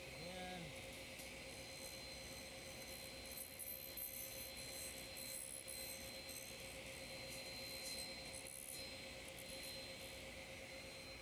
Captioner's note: sawing